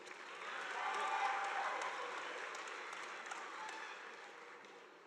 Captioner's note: audience applauding